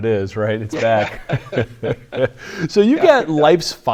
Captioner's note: chuckles; chuckling